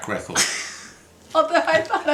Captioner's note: laughs